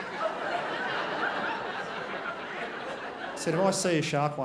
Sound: crowd laughs

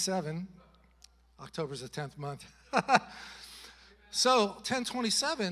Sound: chuckles

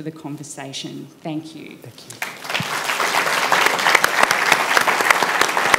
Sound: applause

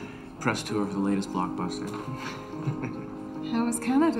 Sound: chuckles

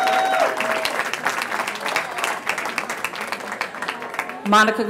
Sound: cheering

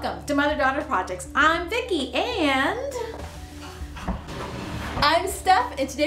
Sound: ladder scraping

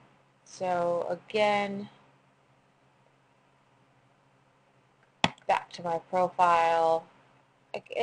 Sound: pause

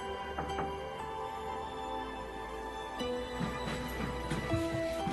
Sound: knocking on door

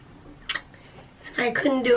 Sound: smooch

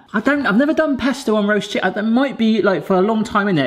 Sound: none

